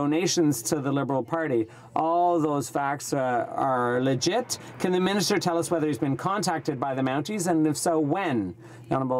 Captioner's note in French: voix de l'interprte